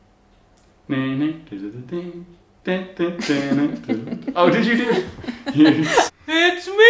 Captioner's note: hums theme song